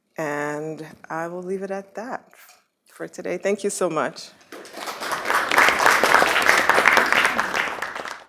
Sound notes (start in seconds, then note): 4.5 applause